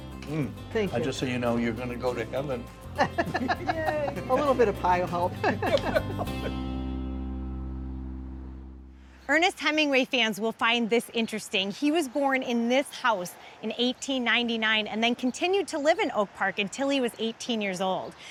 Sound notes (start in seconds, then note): 2.9 laughing; 6.8 gentle acoustic music fading